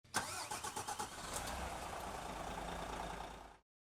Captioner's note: coach engine starting